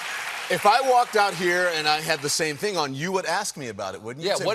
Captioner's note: applause